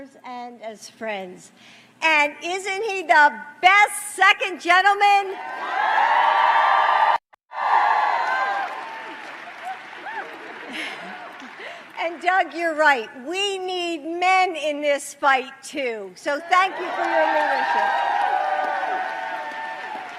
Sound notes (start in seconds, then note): 12.4 applause